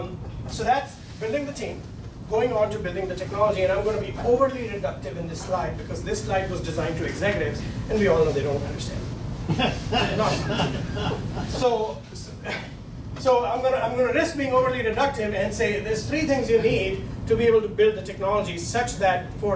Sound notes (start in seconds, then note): 9.4 laughing